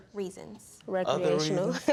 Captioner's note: chuckles